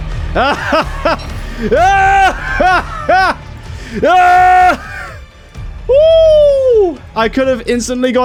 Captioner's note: maniacal laughing